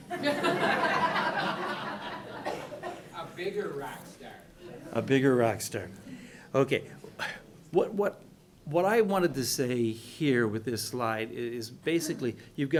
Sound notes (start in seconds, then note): 0.1 laughing; 3.5 voiceover